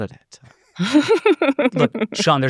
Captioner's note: laughs